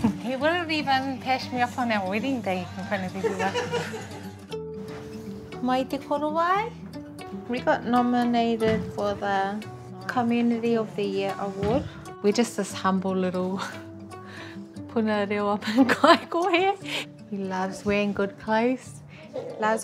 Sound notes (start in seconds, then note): 16.7 laughs